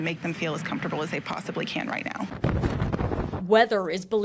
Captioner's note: wind sound